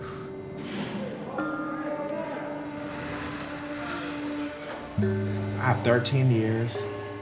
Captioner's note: faint voices in background